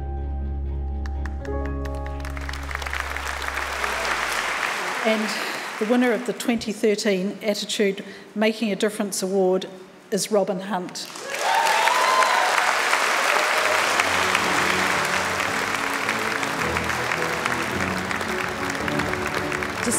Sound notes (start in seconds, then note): 1.0 audience clapping